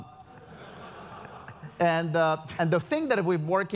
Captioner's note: laugh